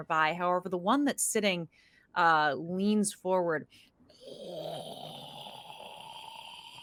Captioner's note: snorting